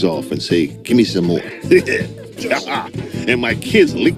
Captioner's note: laughs